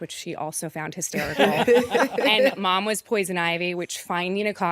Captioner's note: laughter